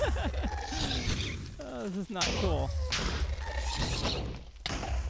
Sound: ghasts shrieking; multiple explosions

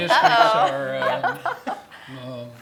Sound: laugh

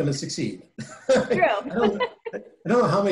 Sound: chuckling

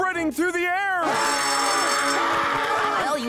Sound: screaming

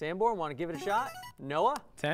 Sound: player buzzer

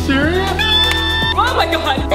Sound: screaming

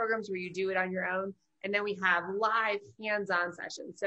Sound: none

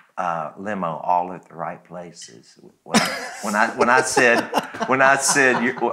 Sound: laughs

